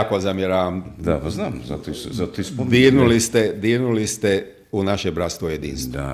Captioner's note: coughs